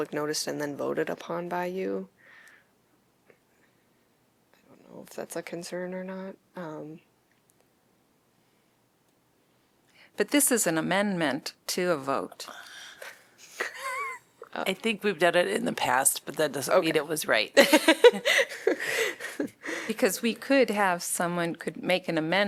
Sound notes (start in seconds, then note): 13.6 laughter